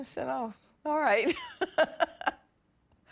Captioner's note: laughs